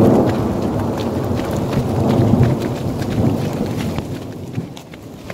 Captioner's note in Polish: słychać grzmoty